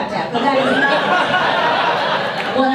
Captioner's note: audience laughs